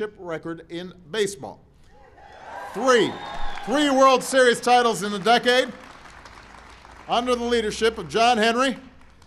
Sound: applause

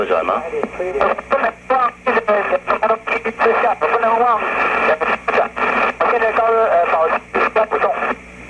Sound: static

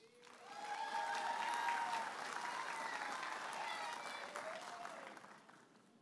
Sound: audience applauding and cheering

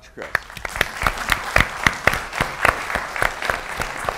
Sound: applause

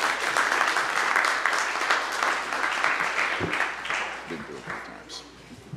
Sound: applause

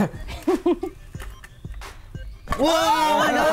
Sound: laughing

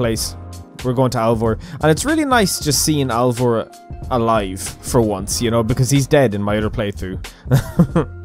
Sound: awkward laugh

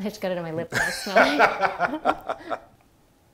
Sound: laughing

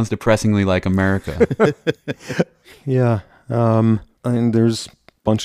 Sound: laughs

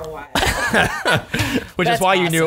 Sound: laughter

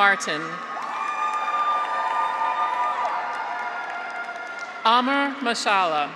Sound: graduates cheer; audience applauds

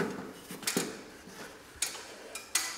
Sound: none

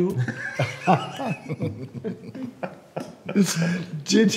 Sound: men laughing

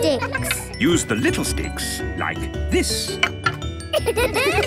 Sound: laughter

